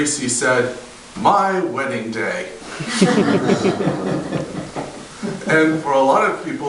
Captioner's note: audience laughter